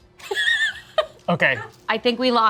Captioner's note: laughs